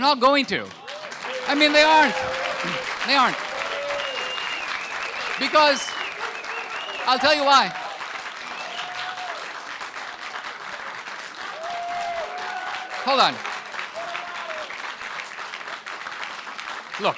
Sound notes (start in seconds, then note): 4.1 audience cheers; 9.9 audience applause